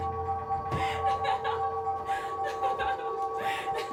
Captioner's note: cries